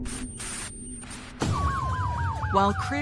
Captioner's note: dramamatic musisic; sirenens wailining